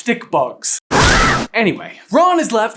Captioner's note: screams